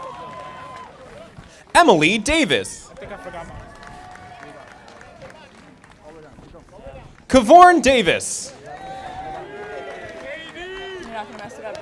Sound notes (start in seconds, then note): 2.9 audience applauding